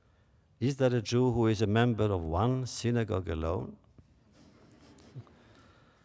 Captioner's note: laughter